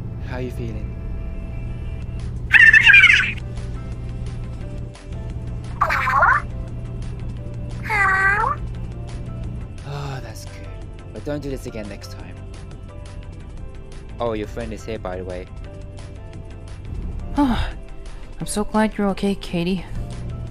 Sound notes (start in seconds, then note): 10.2 sighs; 17.7 sigh in relief